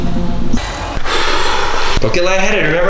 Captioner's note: ominous music; blowing